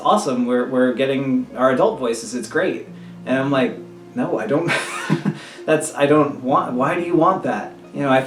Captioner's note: laugh